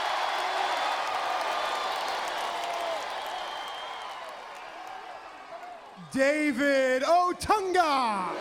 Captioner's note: crowd cheering